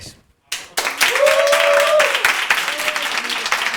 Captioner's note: cheers